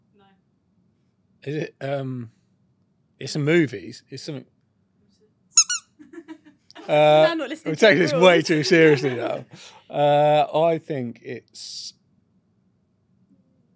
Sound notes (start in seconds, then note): 5.5 toy squeaks; 6.0 laughs